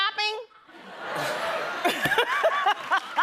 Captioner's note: laughter